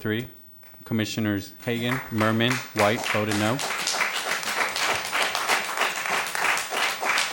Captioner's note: applause